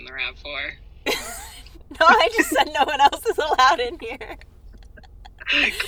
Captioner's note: chuckles